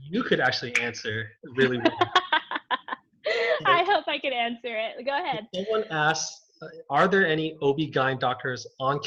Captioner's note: laughs